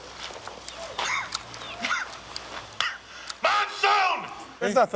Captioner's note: cough